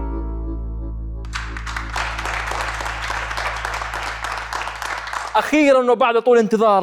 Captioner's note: clapping